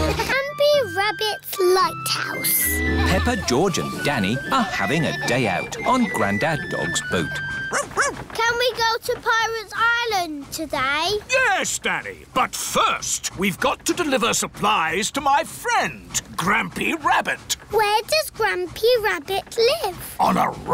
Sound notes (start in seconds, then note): 0.0 all laughing; 7.7 barks